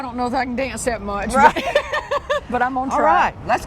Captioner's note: laughs